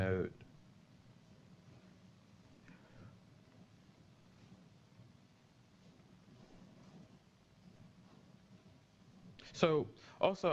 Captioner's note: pause